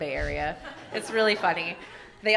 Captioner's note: everyone laughing